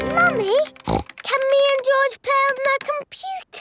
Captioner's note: snorts